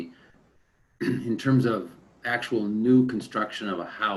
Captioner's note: clears throat